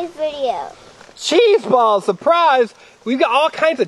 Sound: voiceover

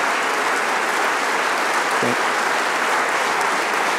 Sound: applause

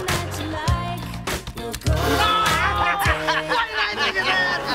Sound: laughing

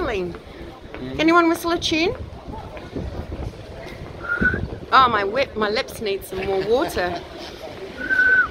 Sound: tries to whistle

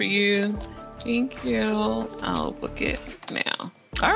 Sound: typing on keyboard

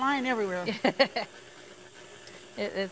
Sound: laughs

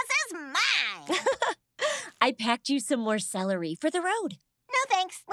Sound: laughs

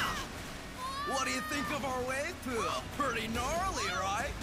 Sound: Juno screaming

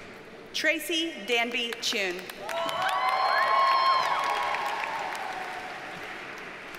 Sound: audience cheers and applauds

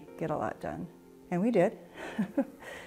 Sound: chuckles

